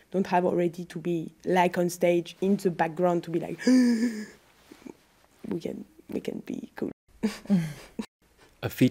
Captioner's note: anxious noise